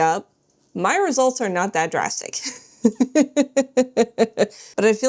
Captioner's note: laughs